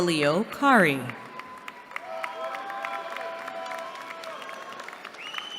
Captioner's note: cheering